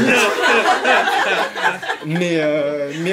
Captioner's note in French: rires